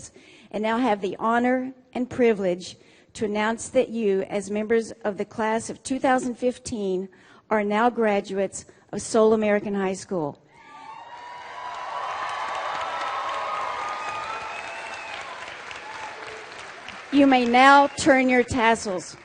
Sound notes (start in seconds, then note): 10.6 cheering and Applause